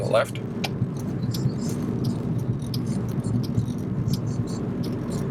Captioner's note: turn signals clicking